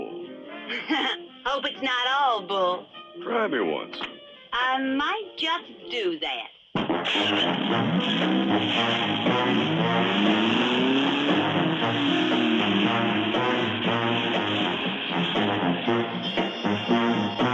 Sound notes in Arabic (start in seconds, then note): 0.5 يضحك; 5.9 هدير المحرك; 13.2 موسيقى مفعمة بالحيوية والنشاط